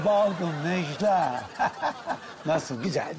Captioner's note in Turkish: Gülme sesi